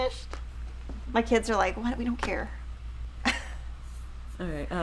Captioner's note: chuckles